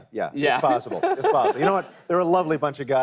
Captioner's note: laughs